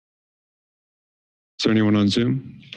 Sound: silence

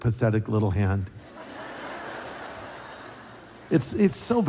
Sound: laughter

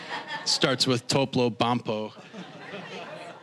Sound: audience laughing

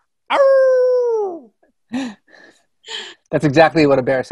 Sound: Rainn howls

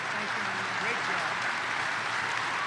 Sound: applause

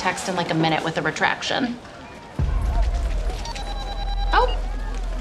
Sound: phone rings

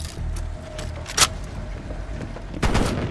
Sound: gun cocks; gun fires

